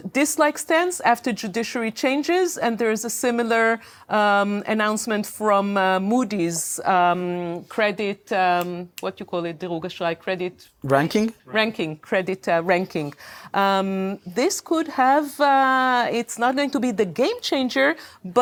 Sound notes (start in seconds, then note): 9.7 speaking hebrew